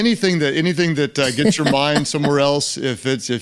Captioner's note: Lysa laughs